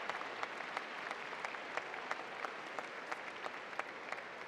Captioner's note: applause